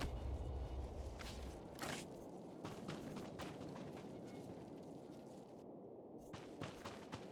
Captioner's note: wind howling